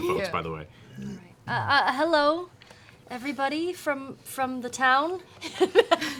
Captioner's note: stuttering